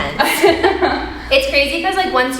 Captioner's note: both chuckling